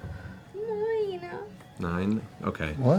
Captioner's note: small voice